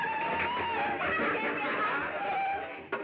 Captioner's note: laughing